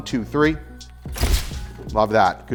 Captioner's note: shutter clicks